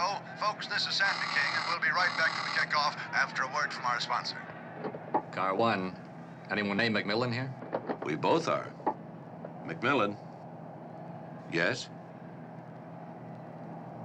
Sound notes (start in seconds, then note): 1.1 phone buzzing